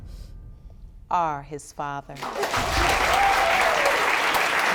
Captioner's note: audience applauding